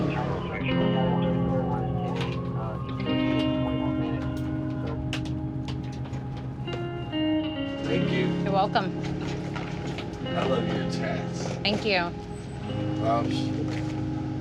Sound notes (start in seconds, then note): 3.7 siren